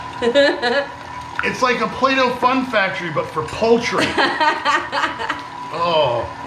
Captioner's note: laughing